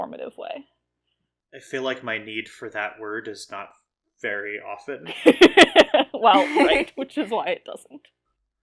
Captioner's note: laugh